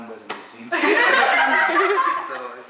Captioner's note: everyone laughs